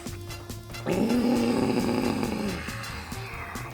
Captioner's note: dramatic drunk groaning exacerbated by fall-onset allergies